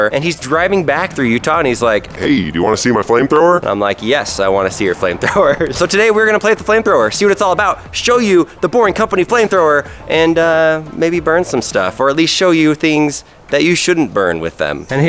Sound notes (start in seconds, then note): 5.4 laughs